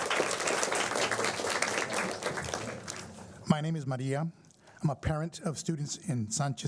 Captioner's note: applause